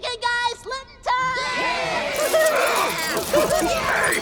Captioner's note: Kobolds cheer and loot